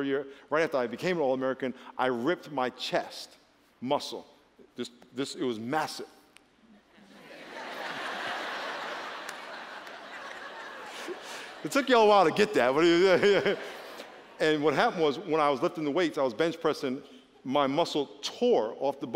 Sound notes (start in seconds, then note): 9.4 laughter